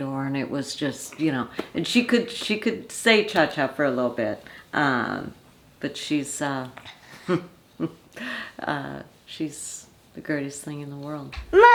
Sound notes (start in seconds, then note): 7.2 grandma chuckling